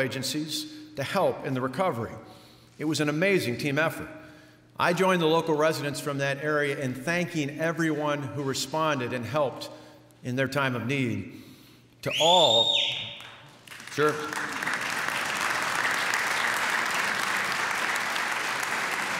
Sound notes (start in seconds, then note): 12.0 whistle from crowd; 16.0 applause